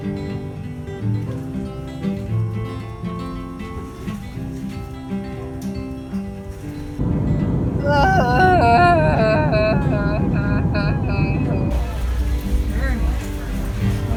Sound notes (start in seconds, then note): 0.1 acoustic guitar music playing; 7.8 sighing